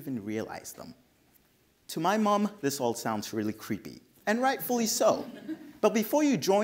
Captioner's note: audience laughs